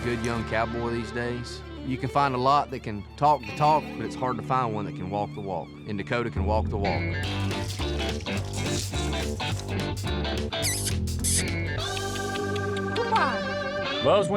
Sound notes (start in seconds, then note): 10.9 calling